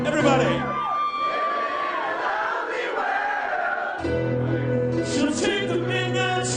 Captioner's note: crowd